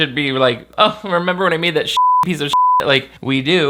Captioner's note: beep